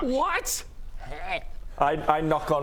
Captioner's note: hrgh